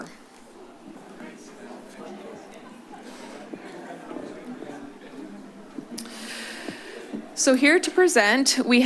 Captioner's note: shuffling sounds